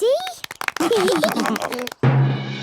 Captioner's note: clapping, laughing